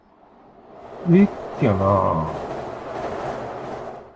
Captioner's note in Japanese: ガタンガタン・・・